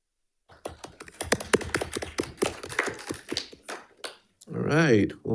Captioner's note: attendees applauding